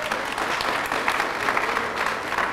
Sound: applause

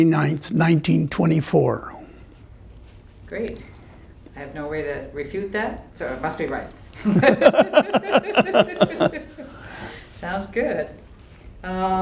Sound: laughter

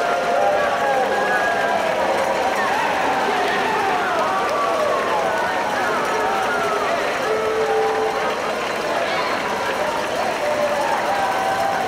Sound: cheering

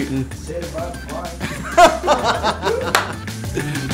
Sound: laughter

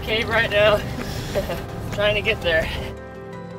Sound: laughs

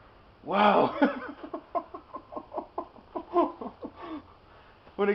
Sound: laughs

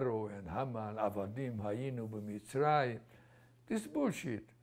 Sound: non-english

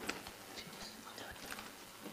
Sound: whispering

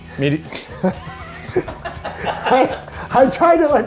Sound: both laugh

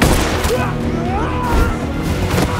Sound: none

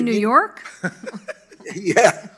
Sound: panel laughs

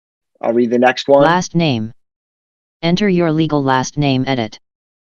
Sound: screen reader voice

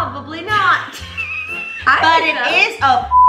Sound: laughs

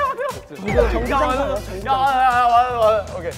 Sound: members start talking individually again

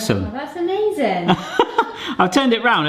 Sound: chuckling

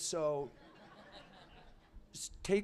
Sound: laughter

